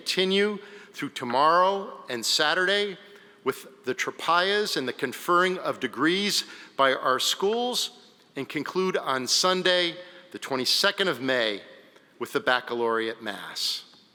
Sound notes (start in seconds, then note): none